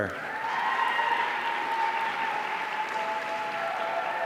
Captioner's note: audience cheering